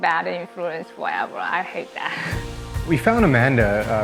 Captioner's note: chuckles